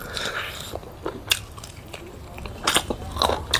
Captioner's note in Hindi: नाक से की जाने वाली आवाज़